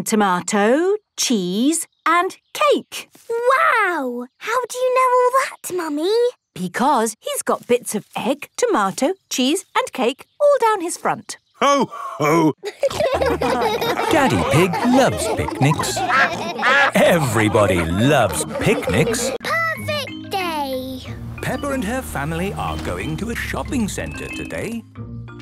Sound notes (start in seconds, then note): 12.5 laughter; 17.9 quacking; 19.0 laughter